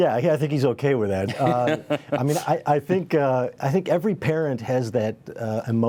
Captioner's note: laughter